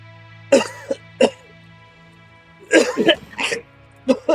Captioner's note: Jim coughs